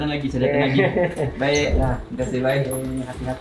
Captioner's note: laugh